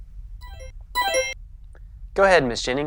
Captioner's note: monitor beeping